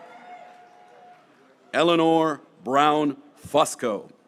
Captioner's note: graduates cheering